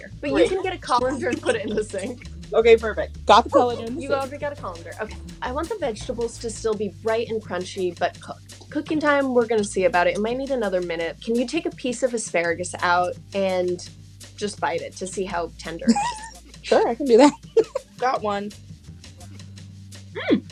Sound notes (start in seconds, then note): 15.8 laughs